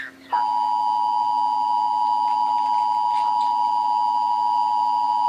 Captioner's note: radio chattering; TV buzzing loudly